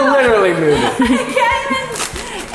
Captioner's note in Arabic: تضحك; يضحك